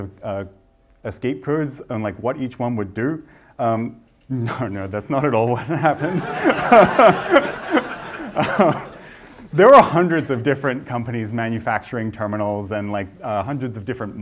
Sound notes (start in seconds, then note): 8.2 laughter